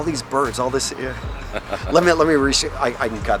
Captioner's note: laughs